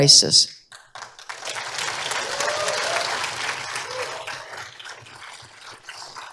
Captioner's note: applause